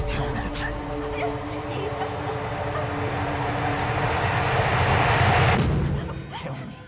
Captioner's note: soft ominous music; Susan whimpering